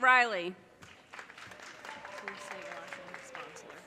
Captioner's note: audience cheers and applause